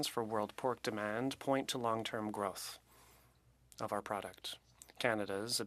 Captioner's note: speaking French